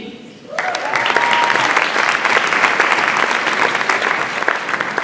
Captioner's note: audience applauds